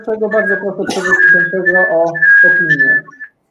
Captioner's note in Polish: sprężenie mikrofonu